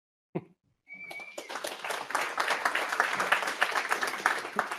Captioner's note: applause